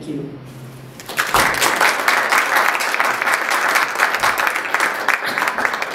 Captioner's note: applause